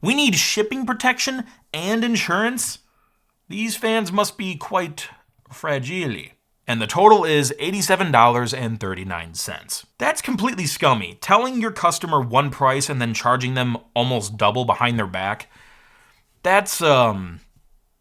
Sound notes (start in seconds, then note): none